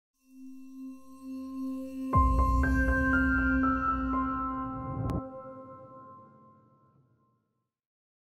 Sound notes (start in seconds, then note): 1.0 bright music; 4.7 whoosh